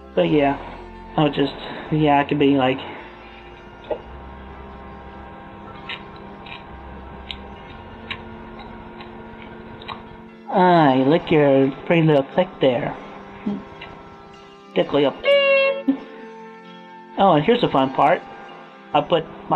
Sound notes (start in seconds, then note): 4.7 cursed mouth sounds